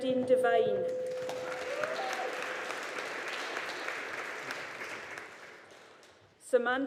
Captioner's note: audience applauding